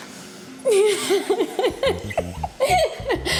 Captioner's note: laughs